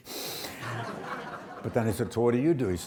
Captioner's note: audience laughs